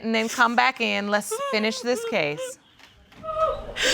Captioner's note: sobbing